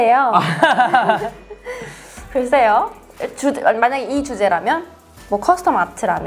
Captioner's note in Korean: 웃음